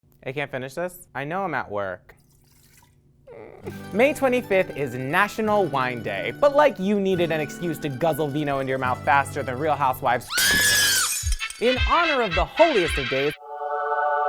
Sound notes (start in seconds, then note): 2.1 liquid pouring; 10.3 screaming; 10.3 glass breaking